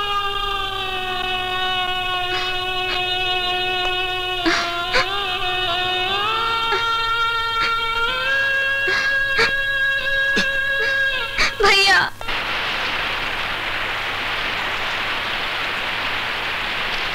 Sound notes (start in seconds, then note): 4.4 crying